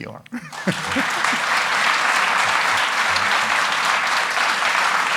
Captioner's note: audience applauding